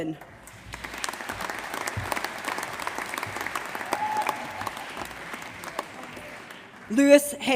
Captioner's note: applause